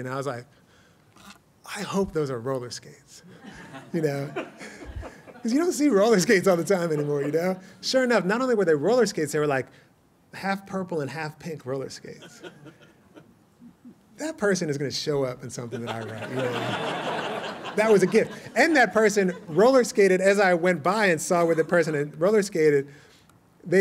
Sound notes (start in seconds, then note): 3.3 laughter; 15.7 laughter